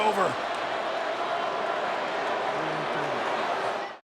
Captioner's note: crowd boos